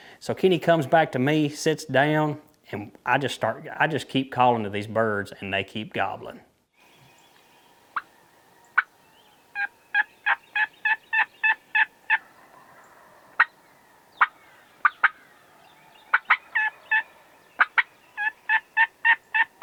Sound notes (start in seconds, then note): 9.6 turkey call; 12.5 turkey gobbling; 17.1 turkey call